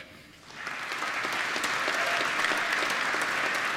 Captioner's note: applause